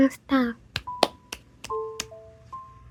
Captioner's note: sound of applause